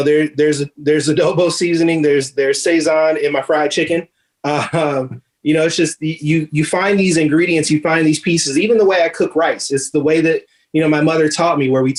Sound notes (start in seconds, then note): 4.4 chuckles